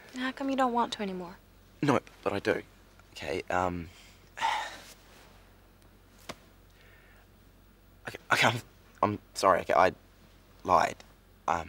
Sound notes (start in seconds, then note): 4.3 sighs